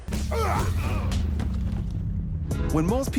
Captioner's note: grunting